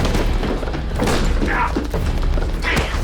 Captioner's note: gunshot